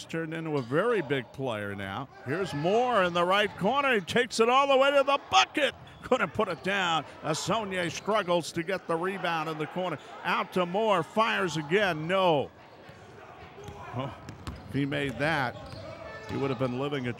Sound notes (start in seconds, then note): 11.8 ball pounding; 11.8 yelling